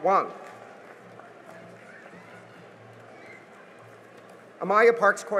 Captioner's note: cheering and applause